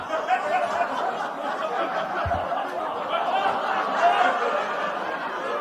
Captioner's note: laughter